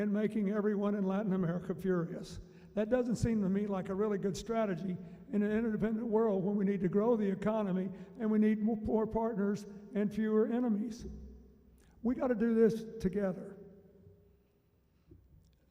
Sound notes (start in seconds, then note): none